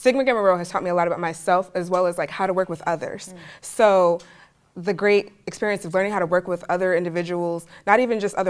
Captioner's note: none